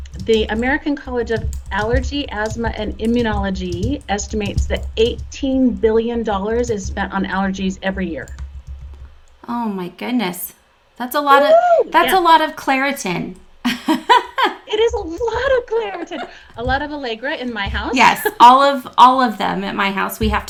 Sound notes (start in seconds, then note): 13.7 laughs